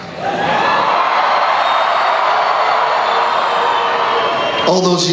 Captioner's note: cheering